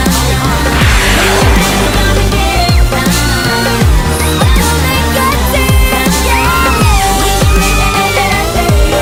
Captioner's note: Sweet Polly Screams